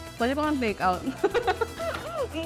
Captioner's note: laughs